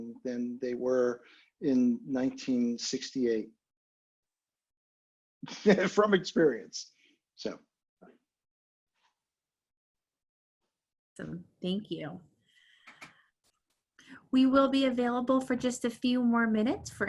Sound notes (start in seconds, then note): 5.5 laughing